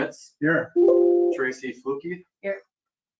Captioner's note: computer beeps